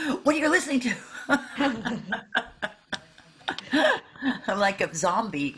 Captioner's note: laughing